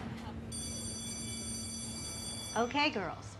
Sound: school bell rings

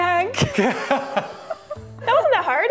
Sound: laughter

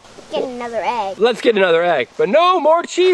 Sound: voiceover

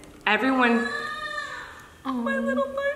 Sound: baby wailing

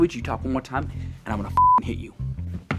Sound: beep

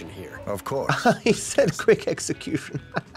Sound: laughs

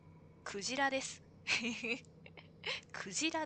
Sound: laughs

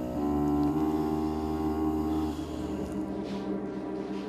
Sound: sighs

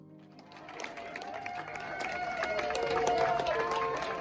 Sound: all cheering

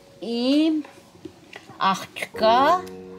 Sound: speaking Armenian

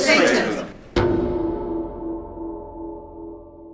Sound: bell tolls

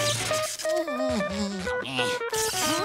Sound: humming

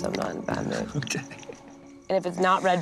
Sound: laughing

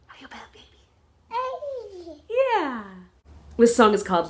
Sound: baby sound

